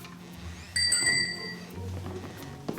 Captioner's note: bell